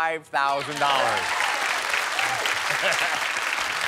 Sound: cheers and applause

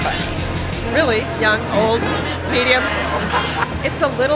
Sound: laughs

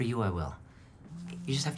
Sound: phone vibrates

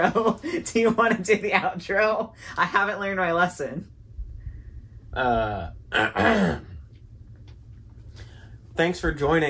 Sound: clears throat

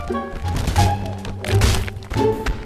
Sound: smash

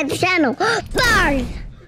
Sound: gasps

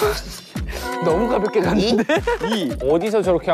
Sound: frustrated

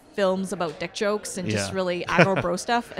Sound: laughs

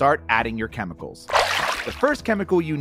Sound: water splashes

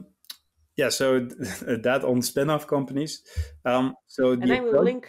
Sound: chuckles

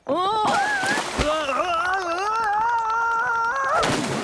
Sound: screaming

